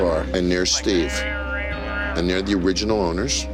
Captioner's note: blathering